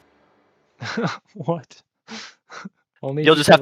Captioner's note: laughs